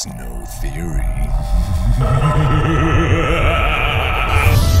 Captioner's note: evil laughter